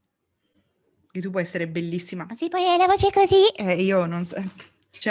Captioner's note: high pitch voice